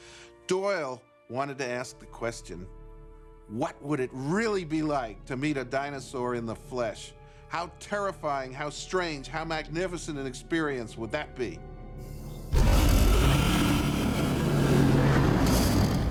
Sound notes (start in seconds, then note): 12.5 dinosaur roars